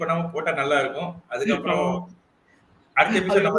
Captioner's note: laughs